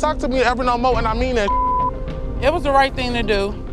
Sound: beep

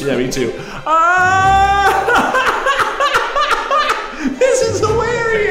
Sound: screaming and laughing

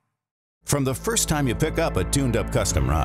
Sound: voiceover

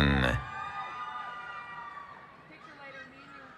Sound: cheering

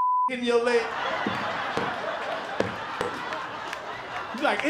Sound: laughter

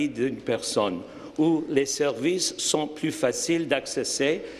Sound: speaking French

